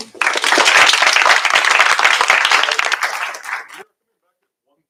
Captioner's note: applause